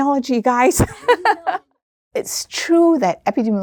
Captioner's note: laughing